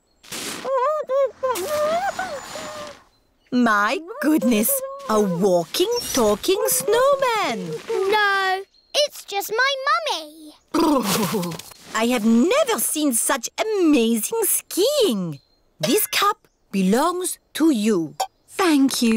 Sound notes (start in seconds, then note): 1.1 muffled groans